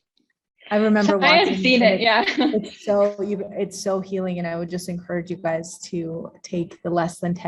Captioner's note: indescribable chatter